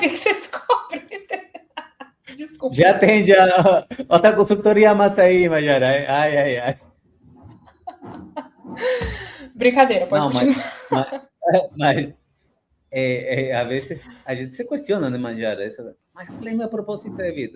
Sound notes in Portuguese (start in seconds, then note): 0.0 risadas; 6.8 risadas; 8.8 suspirando